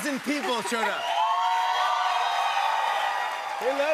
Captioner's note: cheers and applause